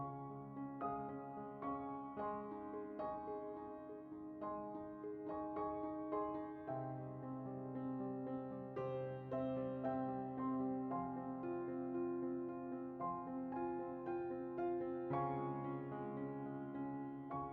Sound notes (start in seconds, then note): none